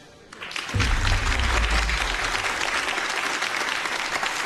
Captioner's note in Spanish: Aplausos